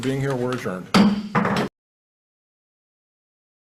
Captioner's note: gavel drops